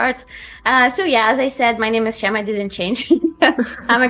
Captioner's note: laughs